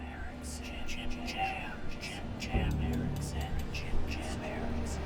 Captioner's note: voices whispering